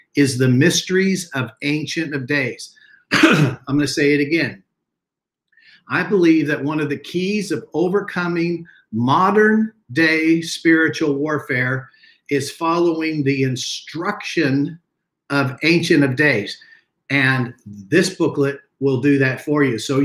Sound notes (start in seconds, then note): 3.1 clears throat